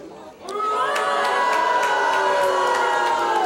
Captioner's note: booing